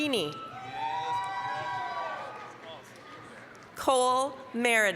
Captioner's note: applause, cheering